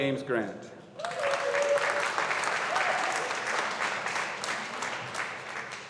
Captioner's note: audience applauding